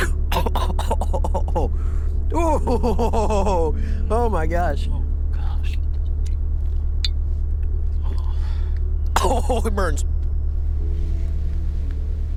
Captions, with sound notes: Oh. (chuckles) Ooh. (chuckles) Oh my gosh. - Oh my gosh. - Uff. - Oh, it burns.